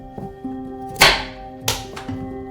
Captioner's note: soft music; knife thuds